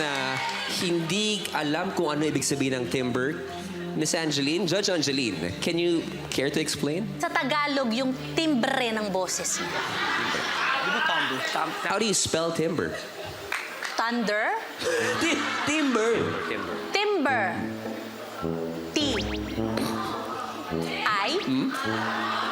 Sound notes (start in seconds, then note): 9.4 audience laughs; 14.8 laughs